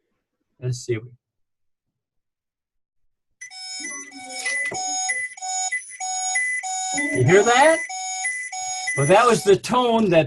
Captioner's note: alarm